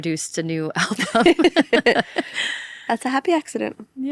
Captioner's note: people laughing